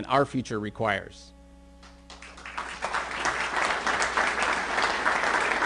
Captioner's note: applause